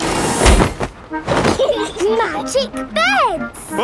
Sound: laughing

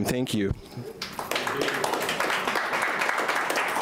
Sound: clapping

